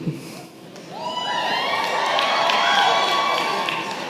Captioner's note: cheering